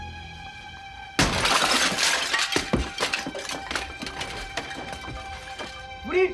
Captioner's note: window shattering